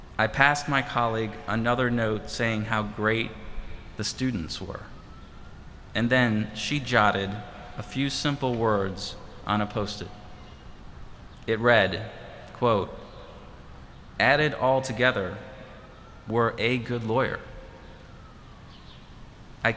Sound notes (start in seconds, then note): none